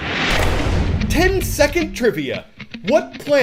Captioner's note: voice-over